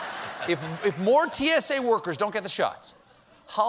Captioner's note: laughter; applause